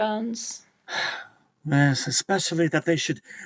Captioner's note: sighing